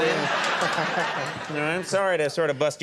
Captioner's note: audience laughing